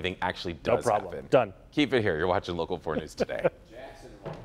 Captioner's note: laughter